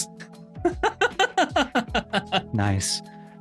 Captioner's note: laughs